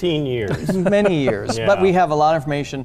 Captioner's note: laughs